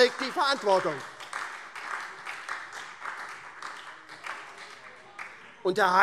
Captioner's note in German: Beifall SPD